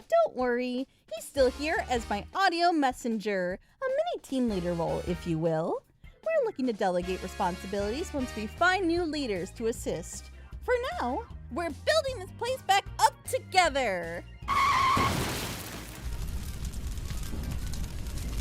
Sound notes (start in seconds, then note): 14.4 car Screech; 14.5 crash